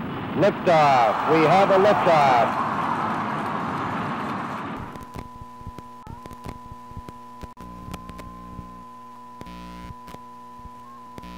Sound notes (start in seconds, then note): 2.5 crowd cheering; 4.6 static sound